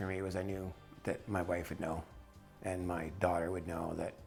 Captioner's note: voiceover